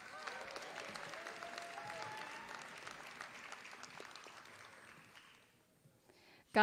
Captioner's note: applause